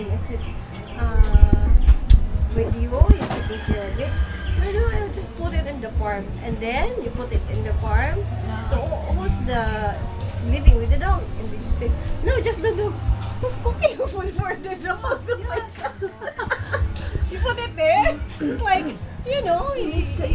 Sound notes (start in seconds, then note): 15.2 laughing